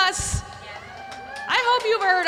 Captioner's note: audience cheering and applauding